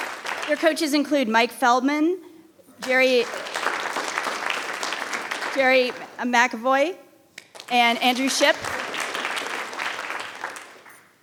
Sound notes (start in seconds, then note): 2.8 audience applauding; 7.5 audience applauding